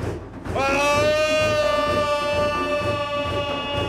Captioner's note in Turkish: Haykırma sesi